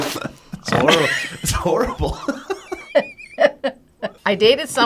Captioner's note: laughs; snorts; laughs